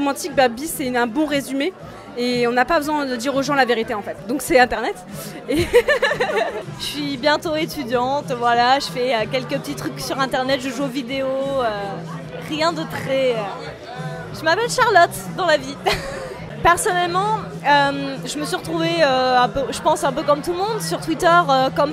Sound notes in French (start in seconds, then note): 5.5 rire